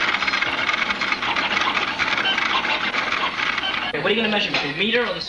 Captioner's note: printer sounds